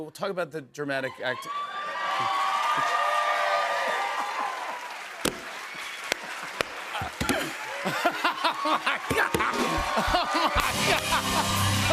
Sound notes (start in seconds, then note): 2.2 cheers and applause; 4.5 laughs